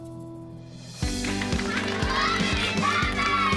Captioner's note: cheering and applause